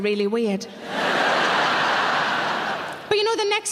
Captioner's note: audience laughing